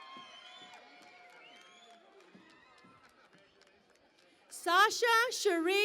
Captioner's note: cheering and Applause